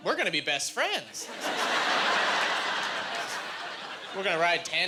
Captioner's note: laughing